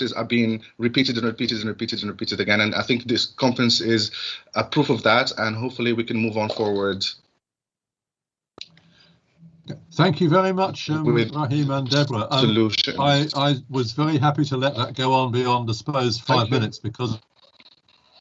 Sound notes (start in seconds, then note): 12.3 glitch